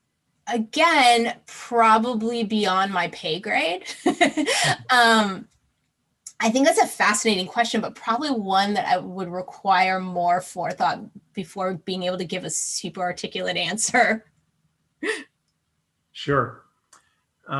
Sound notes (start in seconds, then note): 3.8 laughs